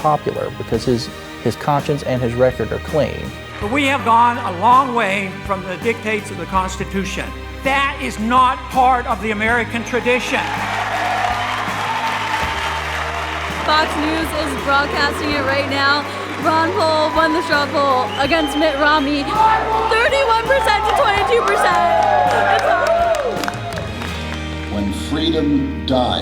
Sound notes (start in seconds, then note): 7.1 applause, cheers; 19.8 cheers